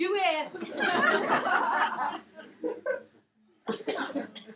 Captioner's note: laughing